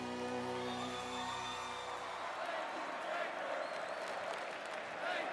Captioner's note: audience cheering